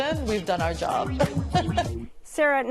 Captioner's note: laughs